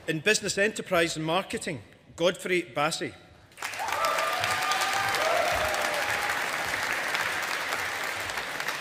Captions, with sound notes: In Business Enterprise and Marketing, Godfrey Bassey. (AUDIENCE APPLAUDING)